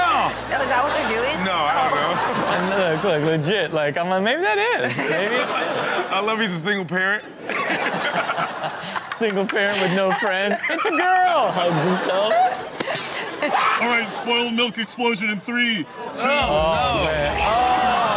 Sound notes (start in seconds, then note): 7.3 all laugh